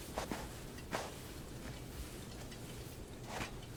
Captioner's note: footsteps thudding